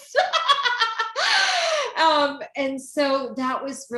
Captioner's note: laughing